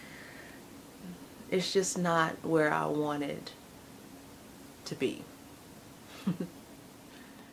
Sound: laughs

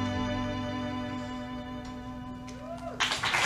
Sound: audience Cheering

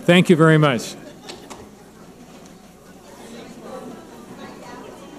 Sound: crowd mumbling

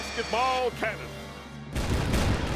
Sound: canon firing

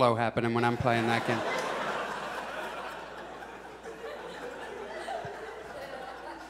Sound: audience laughs

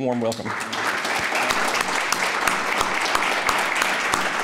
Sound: applauding

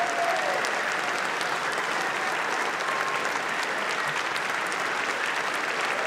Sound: applause

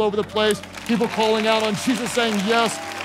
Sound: congregation clapping

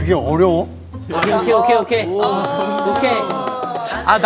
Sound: flap

